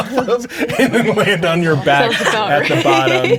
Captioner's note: laughing